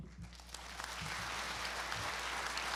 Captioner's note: applauding